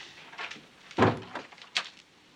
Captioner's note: door opens